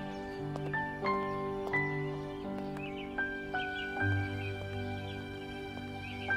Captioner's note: Footsteps